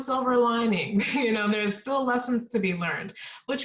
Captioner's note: laughter